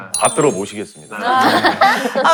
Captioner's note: haha